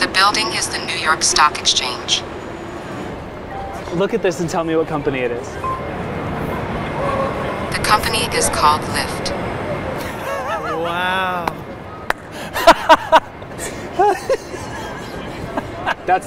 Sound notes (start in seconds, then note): 5.7 pin beeping; 10.0 laughing